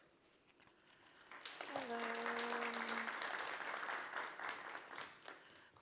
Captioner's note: applause